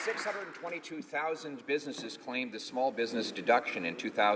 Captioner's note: applause